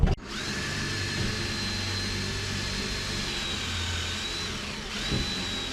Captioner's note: drilling sounds